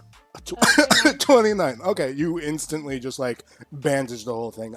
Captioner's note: coughcough